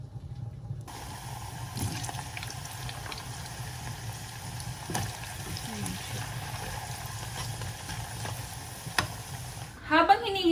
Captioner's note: frying